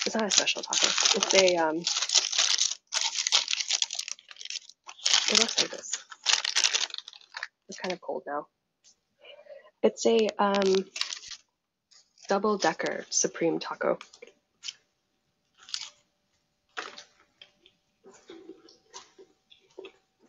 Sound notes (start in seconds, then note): 5.2 taco wrapper crinkling; 15.5 crunch